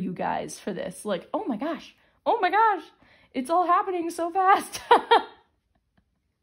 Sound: laugher

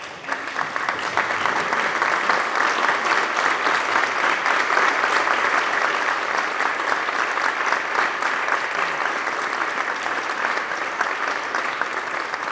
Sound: applause

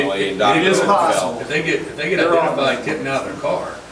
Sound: overlapping chattering

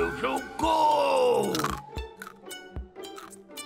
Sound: crunching

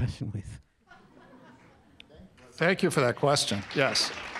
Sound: laugh

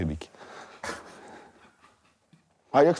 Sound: Dud laughs

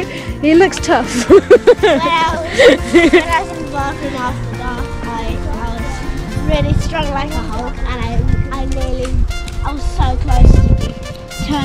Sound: laughing

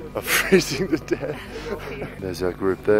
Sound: laughing

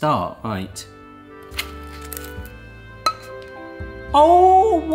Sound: cone crunches

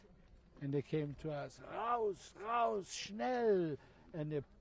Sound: non-english

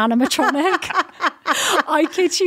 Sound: laughs

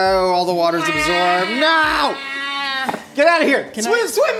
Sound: crying

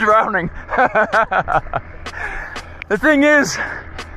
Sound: laughing

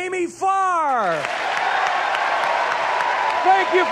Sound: audience cheers and applauds

